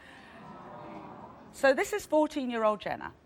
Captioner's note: in Unison